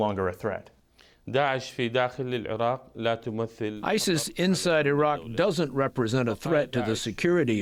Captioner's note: through translator